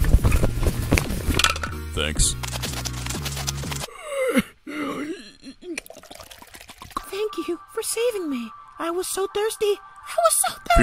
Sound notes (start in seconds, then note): 4.0 painful Groaning; 7.4 angelic humming